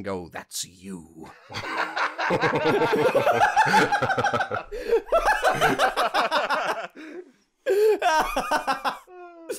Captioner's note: laughter